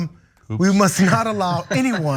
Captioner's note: laugh